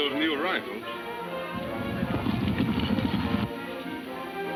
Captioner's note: hooves thudding